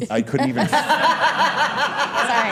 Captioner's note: all laughing